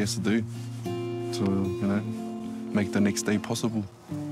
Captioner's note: rain falling